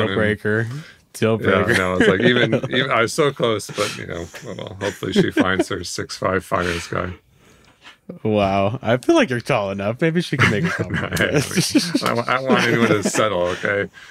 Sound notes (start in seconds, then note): 1.6 laughs; 10.4 all laughing